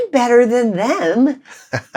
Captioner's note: laughter